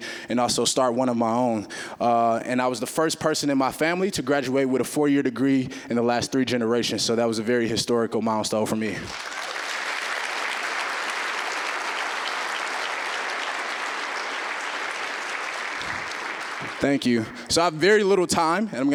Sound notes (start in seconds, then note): 9.0 applause